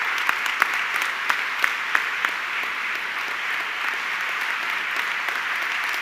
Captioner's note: audience clapping continues